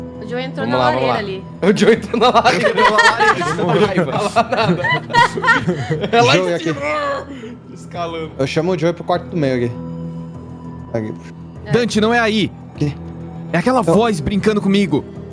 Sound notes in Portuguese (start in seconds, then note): 1.7 risada